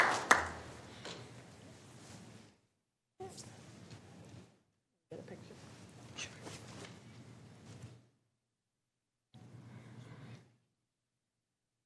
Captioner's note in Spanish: aplauso